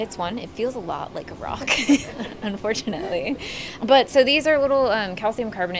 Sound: both laugh

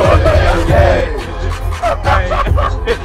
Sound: laughs

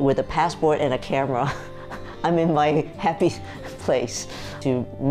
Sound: chuckling

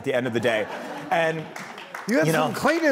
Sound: laughing

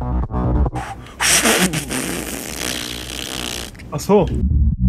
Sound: heavy breathing

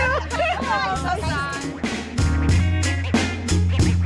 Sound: murmuring; upbeat music

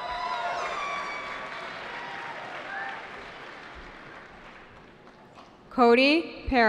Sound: cheering

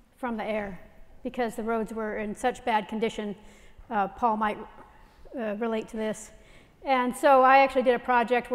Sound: none

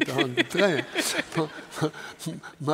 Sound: panelist Laughs

